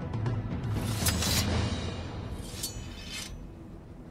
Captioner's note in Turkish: Kılıç sesi